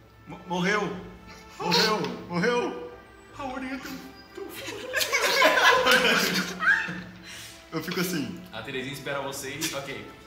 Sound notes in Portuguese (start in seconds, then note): 4.3 Risadas